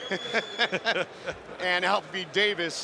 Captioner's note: both laughing